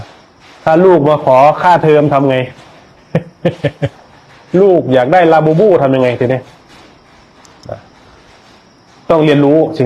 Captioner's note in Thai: เสียงหัวเราะ